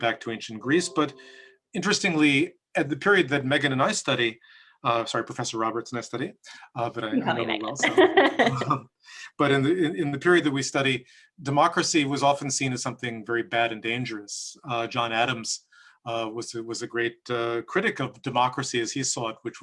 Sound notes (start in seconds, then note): 7.8 laughs